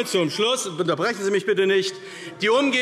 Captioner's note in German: Zurufe DIE LINKE